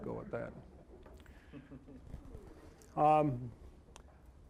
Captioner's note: scattered chuckling